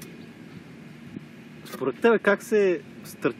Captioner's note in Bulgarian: със сериозен глас